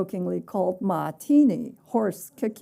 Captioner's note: speaking chinese